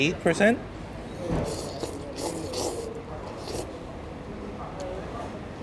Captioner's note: slurping